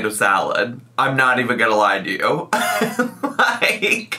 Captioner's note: laughs